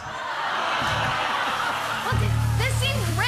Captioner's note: laughter